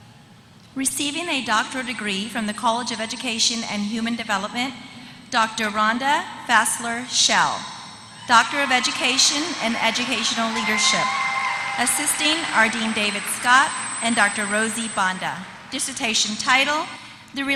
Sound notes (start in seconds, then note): 7.7 applause